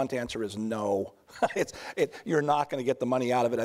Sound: chuckles

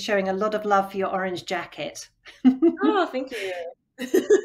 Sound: chuckles

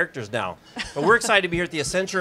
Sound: laughs

